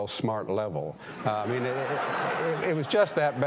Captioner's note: audience laughing